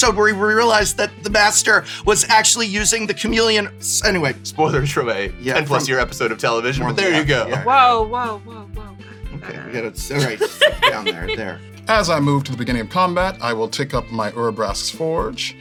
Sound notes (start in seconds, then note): 10.1 laughs